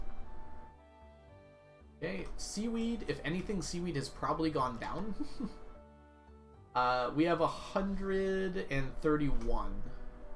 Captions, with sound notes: Okay, seaweed... If anything, seaweed has probably gone down. (laughs) We have 131.